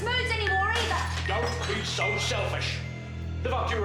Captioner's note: smashing sound